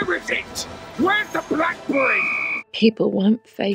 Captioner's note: whistle blaring